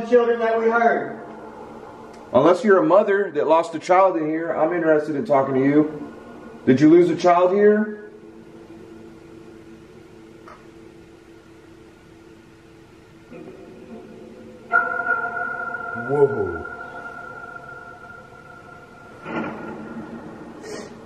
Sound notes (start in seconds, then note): 13.4 echoing sounds; 19.5 static sounds